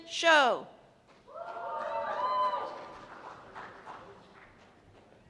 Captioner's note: cheers and applause